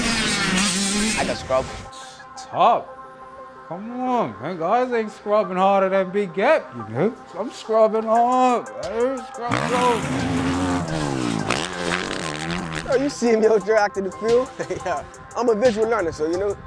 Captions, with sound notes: I could scrub. (scoffs) Top. Come on man, guys ain’t scrubbing harder than Big Gap you know! I’m scrubbing hard man hear me, scrub, scrub. Oh you’ve seen me out there acting the fool! (laughs) Yeah! I'm a visual learner so you know,